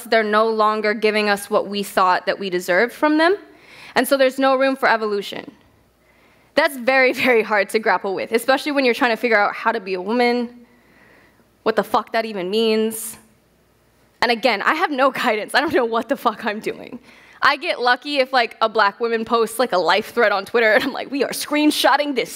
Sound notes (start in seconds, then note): none